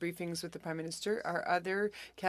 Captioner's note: speaking French